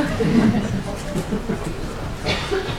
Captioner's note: laughter